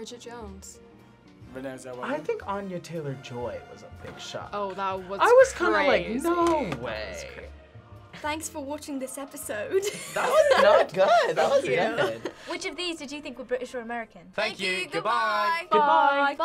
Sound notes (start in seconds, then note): 7.9 accented; 9.8 laughs; 12.5 accented